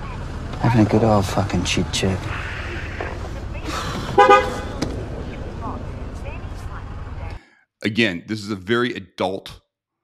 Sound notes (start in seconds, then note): 4.0 car horn sound